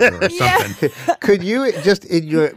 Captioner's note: laughs